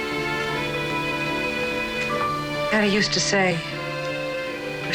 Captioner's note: none